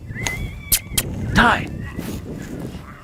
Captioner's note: kissing noise